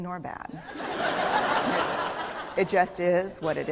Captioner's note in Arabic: ضحك